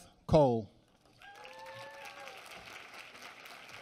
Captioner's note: applause